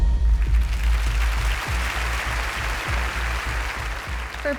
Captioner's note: audience applauding